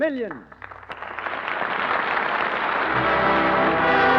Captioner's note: applause